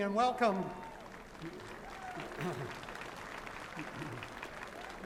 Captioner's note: applause